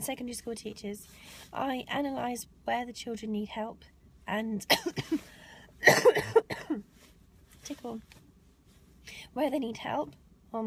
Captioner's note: ahem, ahem